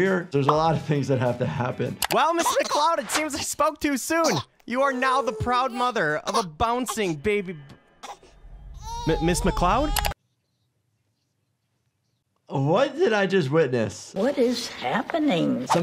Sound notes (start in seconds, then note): 8.7 baby coos